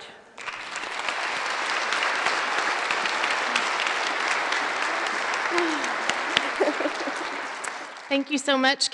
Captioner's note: applause